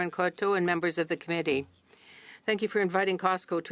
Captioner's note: speaking French